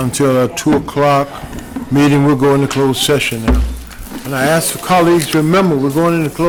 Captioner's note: gavel